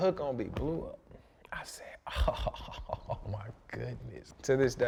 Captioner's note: laughs